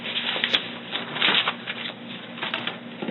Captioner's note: paper rustling